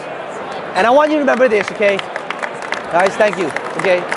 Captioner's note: clapping